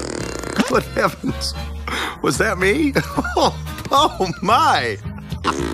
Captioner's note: laughing